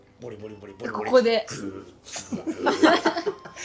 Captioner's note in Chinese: 睡覺聲